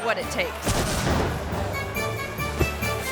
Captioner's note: explosive pops; playful music